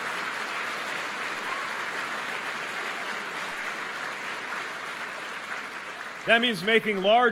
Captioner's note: applause